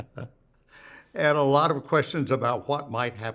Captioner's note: both chuckle